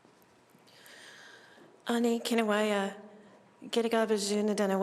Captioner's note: non-english speech